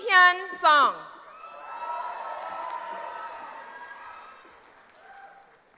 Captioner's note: cheering